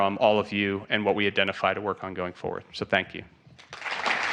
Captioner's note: applause